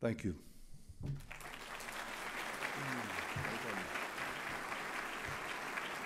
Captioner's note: applause